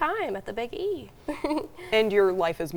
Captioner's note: chuckling